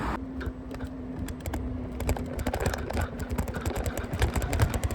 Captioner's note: Electric scooter and traffic noise